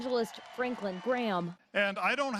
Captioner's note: nats - cheering